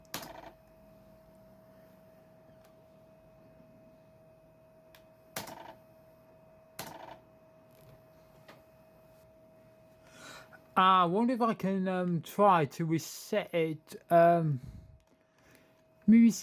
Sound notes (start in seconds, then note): 0.2 laptop floppy drive sound; 5.4 laptop floppy drive sound